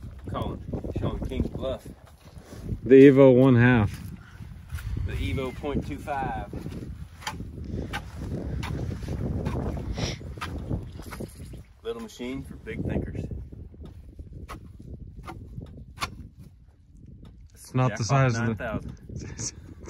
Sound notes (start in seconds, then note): 8.0 shovel clattering